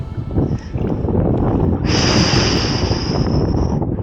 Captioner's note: strong wind, paddling & Viking battlefield music; deep breath; strong wind & Viking battlefield music